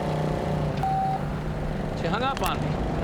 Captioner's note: phone beeps